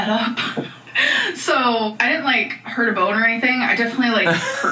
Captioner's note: laughs